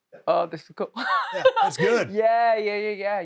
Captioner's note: laughs